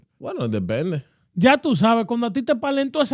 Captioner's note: speaking In Foreign Language